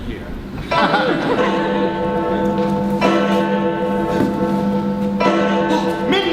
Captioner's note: sound of chimes